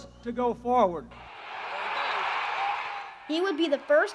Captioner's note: cheers